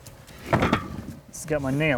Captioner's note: wood clunking